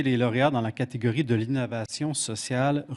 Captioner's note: speaking French